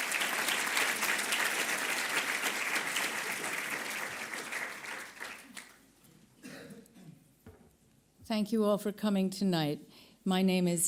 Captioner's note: audience applause